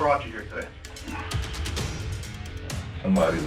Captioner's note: sighs